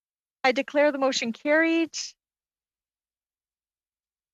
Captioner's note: speaking French